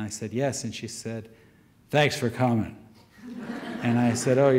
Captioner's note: gruff voice; audience laughter